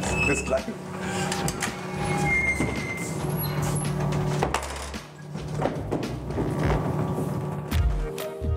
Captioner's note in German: Quietschen